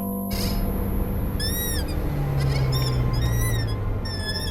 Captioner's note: sign squeaking